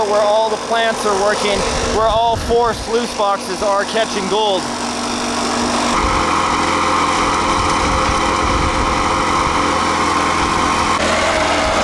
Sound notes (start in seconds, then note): 6.2 motor running